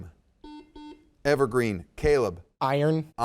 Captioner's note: buzzer dings